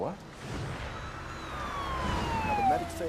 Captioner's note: sirens wailing